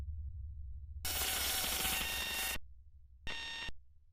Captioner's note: static buzzing